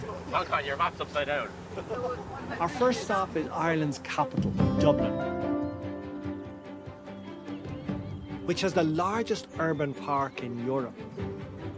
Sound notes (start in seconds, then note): 1.7 laughs; 2.7 voice-over; 4.8 birds chirping